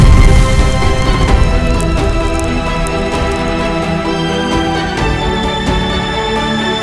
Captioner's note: fire whooshes; fire crackles